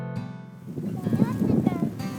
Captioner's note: chatter